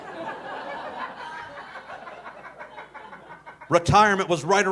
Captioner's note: audience laughing